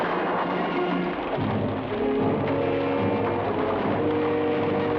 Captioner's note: flame crackles